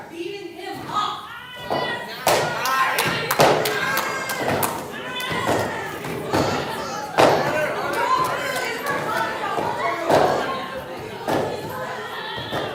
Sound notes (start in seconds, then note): 1.6 screams